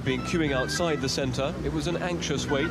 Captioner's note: voiceover